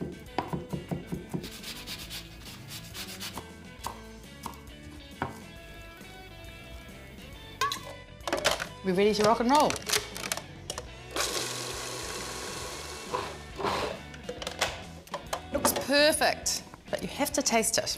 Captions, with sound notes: (knife chopping) (lemon grating) (knife chopping) We're ready to rock and roll. (food processor blending) Looks perfect, but you have to taste it.